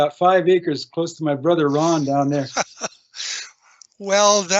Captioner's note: laughing